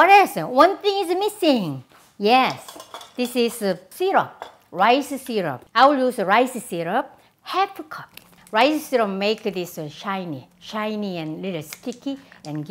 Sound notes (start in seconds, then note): none